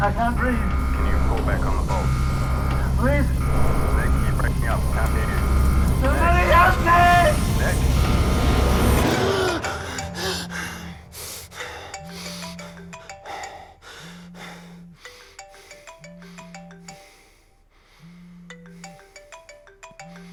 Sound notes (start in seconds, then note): 9.2 Nick gasping; 9.5 phone ringing